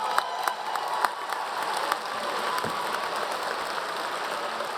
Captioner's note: audience Cheering